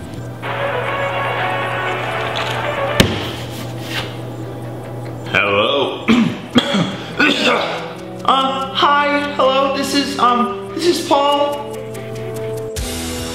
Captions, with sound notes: (Phone ringing) Hello (clears throat) Uh hi, hello? This is um This is Paul?